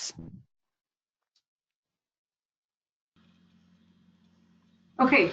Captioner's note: silence